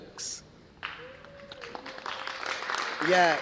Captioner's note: applause